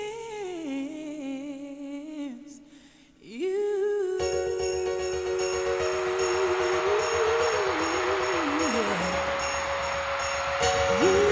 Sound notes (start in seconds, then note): 5.1 crowd cheering